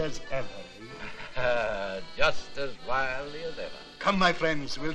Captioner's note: chuckling